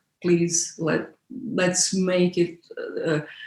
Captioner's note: none